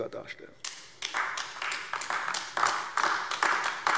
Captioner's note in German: Beifall AfD